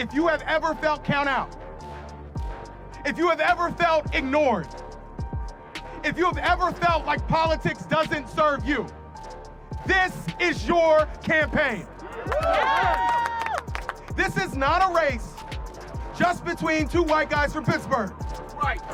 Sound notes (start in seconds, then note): 12.0 crowd cheering and applauding